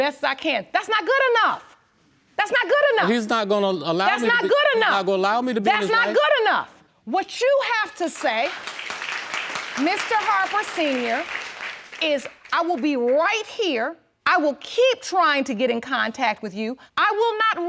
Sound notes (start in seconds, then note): 8.1 audience applauding